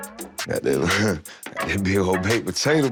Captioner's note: murmurs